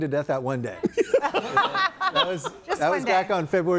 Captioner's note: group laughs